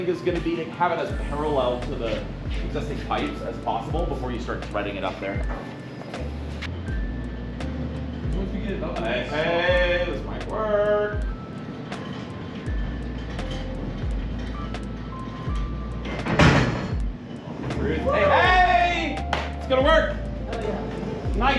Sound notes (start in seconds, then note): 16.1 pipe thuds